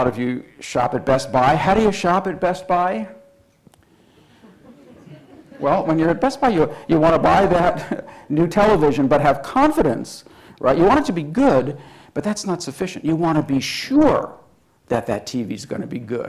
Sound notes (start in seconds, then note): 4.6 audience responding